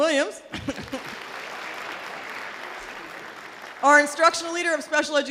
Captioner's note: audience applause